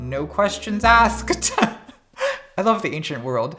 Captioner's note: laughing